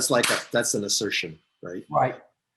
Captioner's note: clapping hands